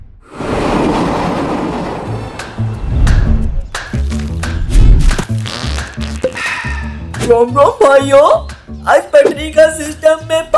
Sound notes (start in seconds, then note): 0.3 train passing; 5.1 fart noises